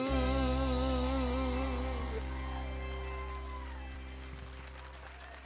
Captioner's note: applause